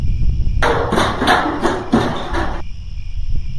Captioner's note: crickets; clanging, crickets; crickets